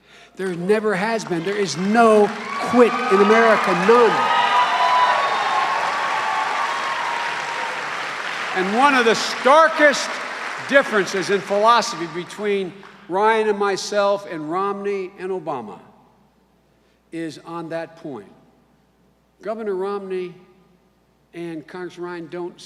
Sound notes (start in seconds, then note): 4.4 cheers and applause